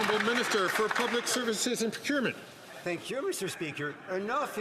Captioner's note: some Applause